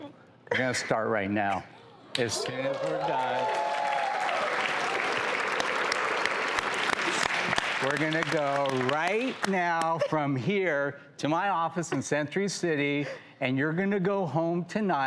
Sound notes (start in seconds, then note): 2.3 cheers